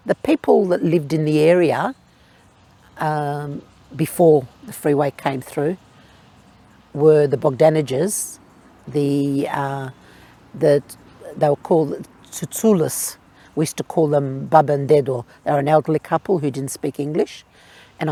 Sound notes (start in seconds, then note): 14.4 speaking in foreign language